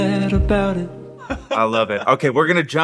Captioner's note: laughing